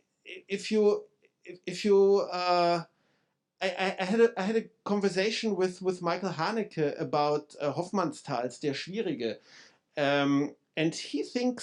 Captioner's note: speaking German